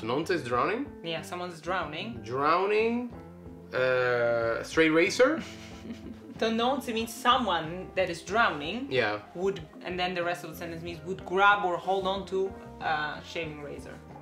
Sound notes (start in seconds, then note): 5.4 she laughs